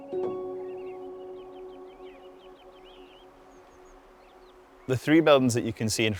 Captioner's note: birds chirp; gentle music